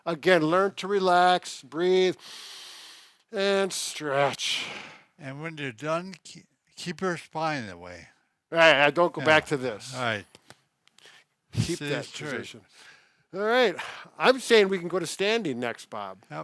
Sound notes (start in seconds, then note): 2.2 inhales; 4.5 exhales